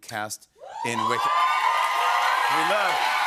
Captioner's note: cheers and applause